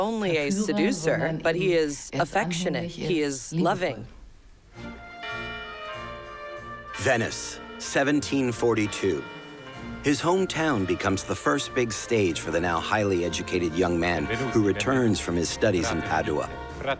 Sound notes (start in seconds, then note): 3.6 church bell ringing; 15.2 Casanova speaking Italian